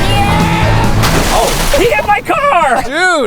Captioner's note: car crashing